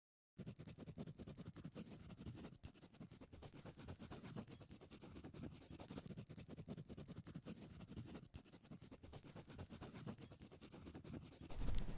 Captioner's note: writing sounds